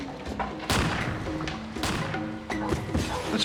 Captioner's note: gunshots